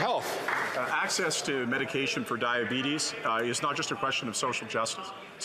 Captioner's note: some Applause